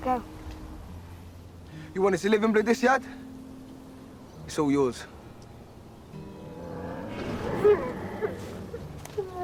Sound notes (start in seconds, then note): 7.2 Madoc whimpering